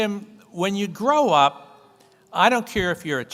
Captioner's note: none